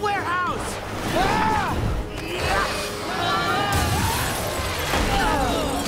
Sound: grunting

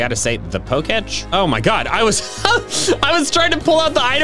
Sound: laughs

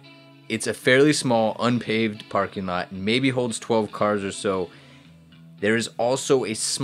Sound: none

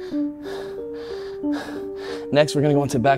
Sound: panting

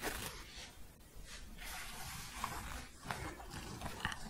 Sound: scratching

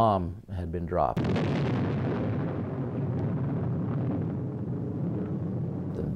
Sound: loud explosion

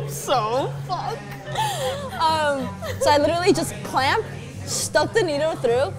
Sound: laughs

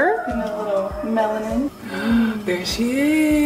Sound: gasping

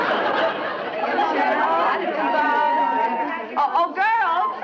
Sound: audience laughs; ladies chattering

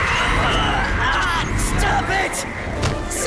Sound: screams; yelling

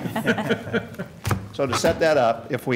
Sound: laughter

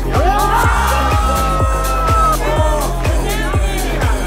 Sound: group cheers

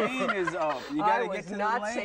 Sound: laughter

